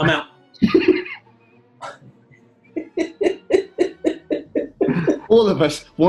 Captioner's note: laughter